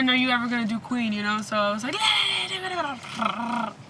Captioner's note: shouting